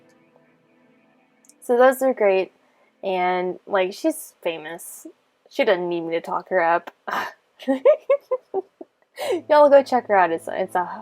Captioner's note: laughing